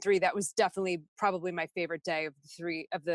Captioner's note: none